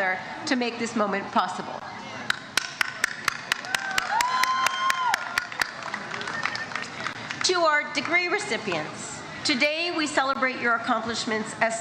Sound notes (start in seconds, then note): 3.0 crown applauds and cheers